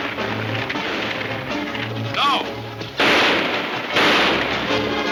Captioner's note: gunshots banging